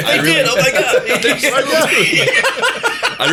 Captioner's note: laughter